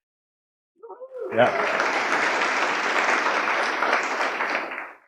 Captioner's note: audience applauding